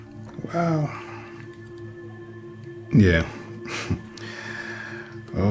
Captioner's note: unfunny laughter